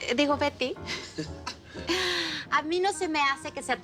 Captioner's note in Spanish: Risas